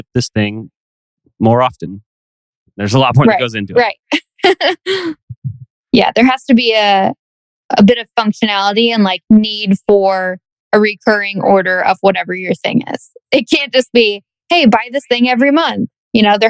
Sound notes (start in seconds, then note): 5.8 laughs